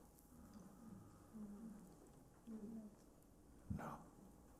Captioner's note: voices in group